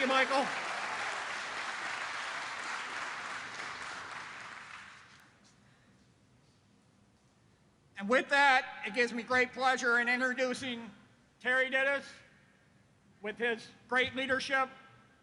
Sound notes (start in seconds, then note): 0.0 applause